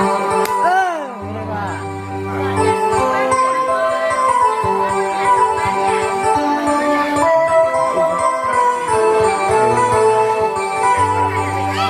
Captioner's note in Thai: ปรบมือ